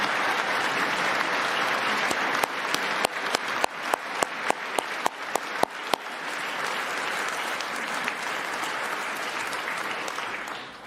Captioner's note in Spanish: aplausos